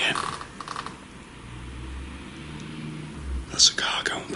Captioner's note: car engine passing